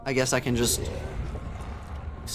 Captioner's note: monster growl